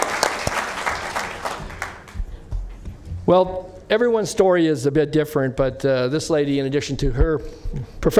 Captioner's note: applause